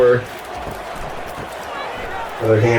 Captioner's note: crowd Noises